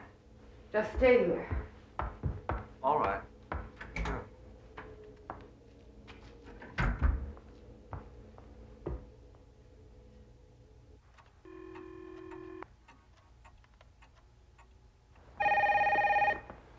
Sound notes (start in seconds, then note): 11.4 saluran telepon berdering; 15.3 telepon berdering